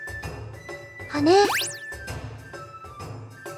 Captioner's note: upward brushstroke